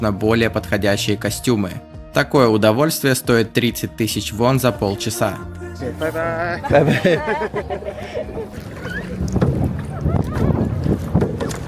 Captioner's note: laughs